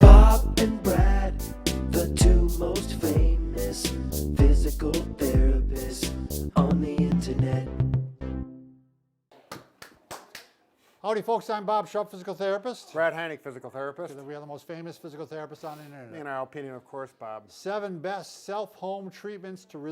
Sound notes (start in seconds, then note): 9.3 claps